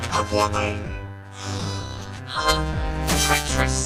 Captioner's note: gasping; grunting